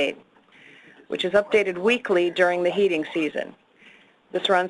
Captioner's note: another person whispering in the background